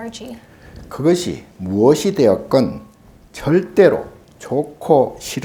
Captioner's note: speaking Korean